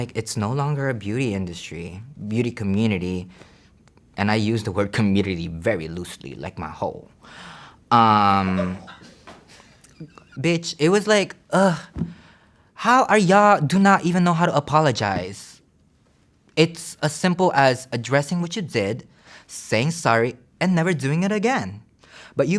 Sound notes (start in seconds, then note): 8.6 staff laughs